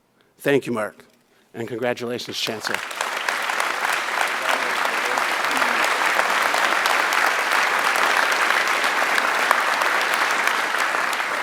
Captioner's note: applause